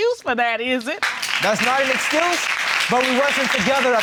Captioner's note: audience applauding